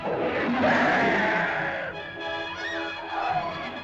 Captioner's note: suspenseful music; caveman screams; suspenseful music; women scream